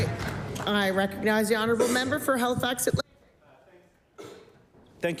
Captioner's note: applause